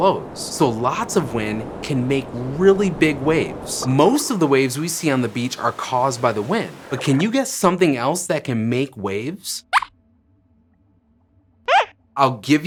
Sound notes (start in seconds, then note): 9.6 squeaks squeaks